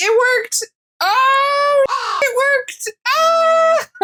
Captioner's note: caw; caw